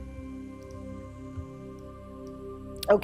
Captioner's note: mouse clicking; gentle music